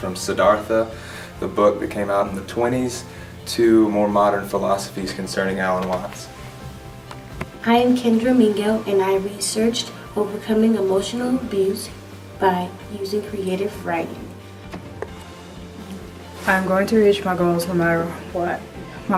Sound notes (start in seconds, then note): none